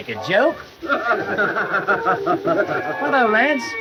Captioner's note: men laughing